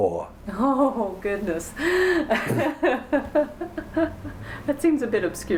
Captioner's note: laughing